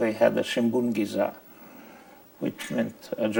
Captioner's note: speaking in foreign language